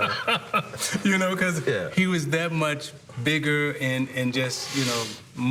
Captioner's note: laughter